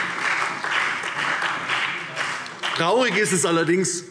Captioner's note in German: Allgemeiner Beifall